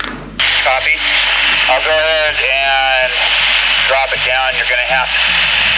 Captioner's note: man On Radio